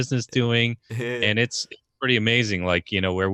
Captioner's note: laughs